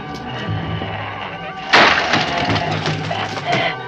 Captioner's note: crash